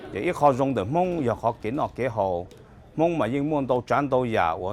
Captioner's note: speaking Hmong